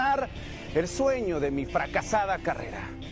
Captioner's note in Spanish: habla en inglés